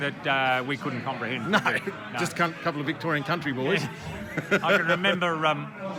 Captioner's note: laughing